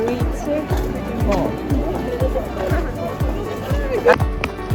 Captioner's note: laughing